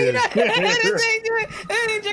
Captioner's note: laughing